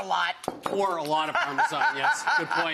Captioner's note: laughs